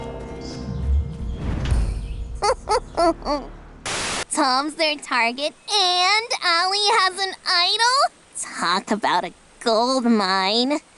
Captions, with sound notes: [giggles] Tom's their target, and Ally has an idol? Talk about a goldmine.